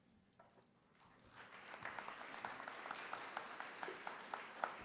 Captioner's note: applause